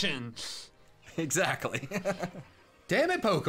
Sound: laughs

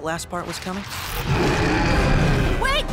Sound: growling

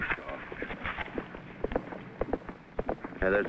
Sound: horse trotting

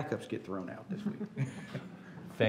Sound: laughter

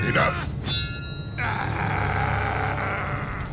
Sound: grunting

